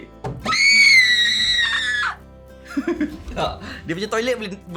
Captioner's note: scream; laugh